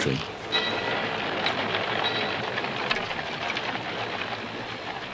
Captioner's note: trolley bell and horses clip-clopping